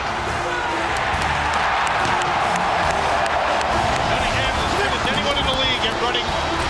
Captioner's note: cheering